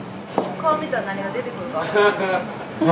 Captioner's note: laughter